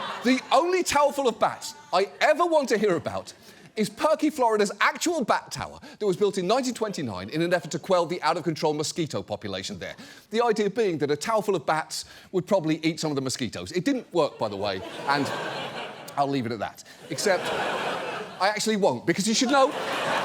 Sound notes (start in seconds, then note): 16.9 studio audience laughs